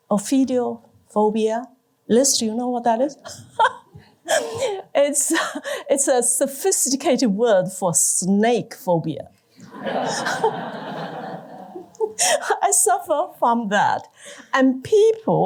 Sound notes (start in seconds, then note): 9.6 laughter